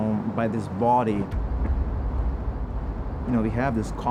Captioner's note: cinematic hit